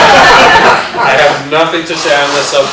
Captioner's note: laughter